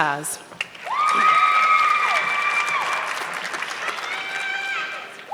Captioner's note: audience clapping